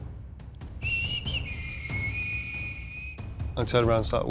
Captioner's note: whistling